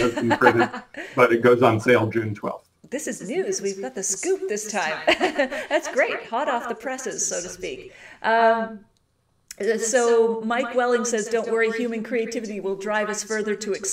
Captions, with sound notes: But it goes on sale June 12th. - This is news. We've got the scoop this time. (laughs) That's great. Hot off the presses, so to speak. So Mike Welling says, "Don't worry, human creativity "will drive us further to experiment."